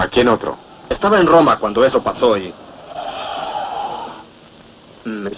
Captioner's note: tyres squeal